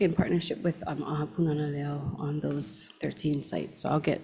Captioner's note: speaking Hawaiian